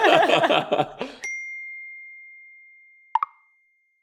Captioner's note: both laughing; bell chimes; electronic popping